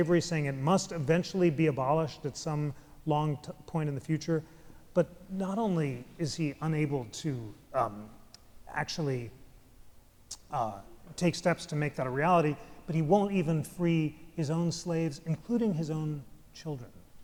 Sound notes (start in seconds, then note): none